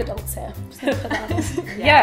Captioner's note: laughs